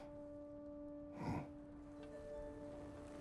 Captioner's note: grunt